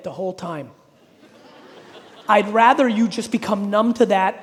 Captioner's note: audience laughing